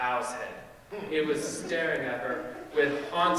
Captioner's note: audience laughing